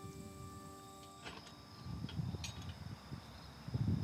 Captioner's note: birds chirps; metal clinking